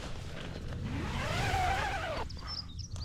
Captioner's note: zipper